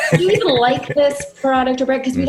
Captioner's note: laughing